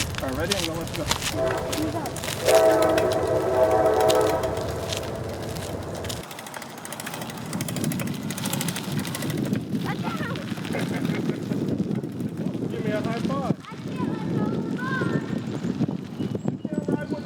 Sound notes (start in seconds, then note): 1.3 chain whistling in distance; 9.9 laughing